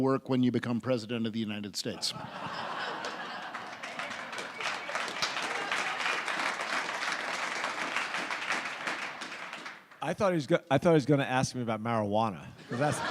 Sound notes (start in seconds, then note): 2.0 audience laughs; 2.2 audience applauds